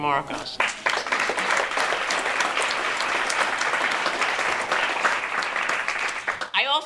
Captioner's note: applause